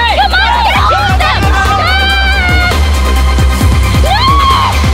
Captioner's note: screaming